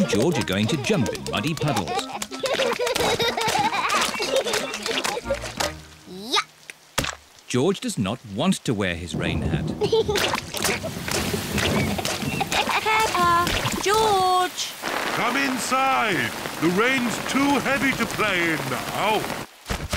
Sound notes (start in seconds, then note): 2.7 both giggling; 9.0 thunder rumbling; 10.0 giggling